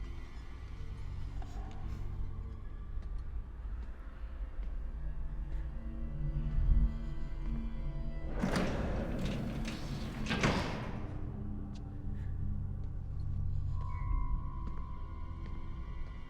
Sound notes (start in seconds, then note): 5.8 suspenseful music; 8.3 doors clank shut